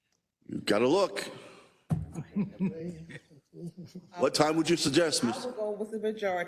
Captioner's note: laugh